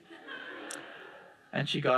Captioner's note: audience laughing